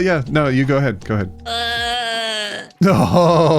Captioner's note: groaning